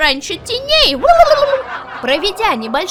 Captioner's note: huehuehue